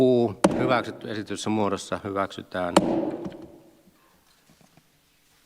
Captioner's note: Nuijan kopautus; Nuijan kopautus